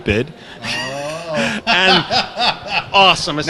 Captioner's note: laughter